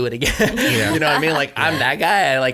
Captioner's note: laughter